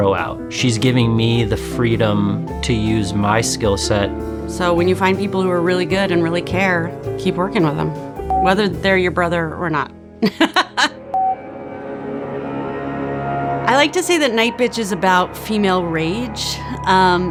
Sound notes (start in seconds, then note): 10.3 laughs; 11.2 suspenseful music